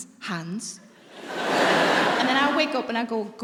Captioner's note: audience laughing